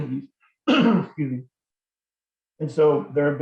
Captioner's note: clears throat